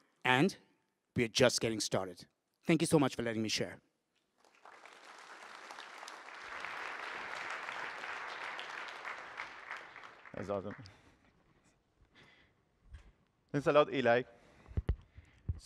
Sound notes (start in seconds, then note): 4.3 applause